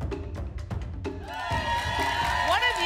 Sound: applause and cheering

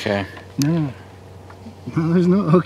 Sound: laughs

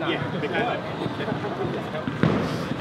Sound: all laugh

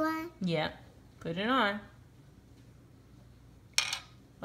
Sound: voiceover

